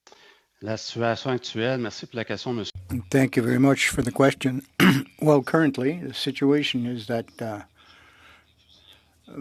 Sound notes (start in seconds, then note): 4.6 speaking French